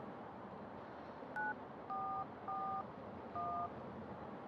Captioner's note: phone beeps